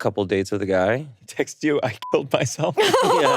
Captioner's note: beeps; laughing